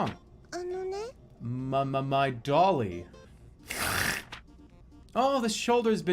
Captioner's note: snorts